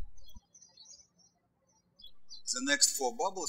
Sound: birds chirping

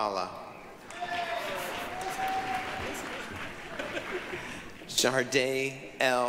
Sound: applause, cheering

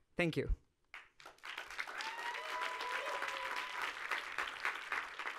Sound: audience applauding and cheering

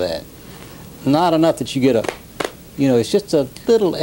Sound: claps

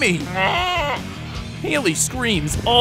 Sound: bleating

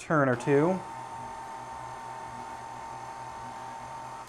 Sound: mixer hums

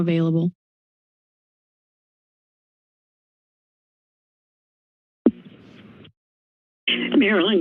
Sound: silence

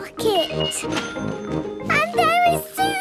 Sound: cash register dinging

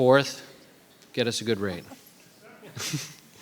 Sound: chuckling

